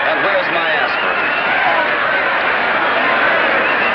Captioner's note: jubilant cheering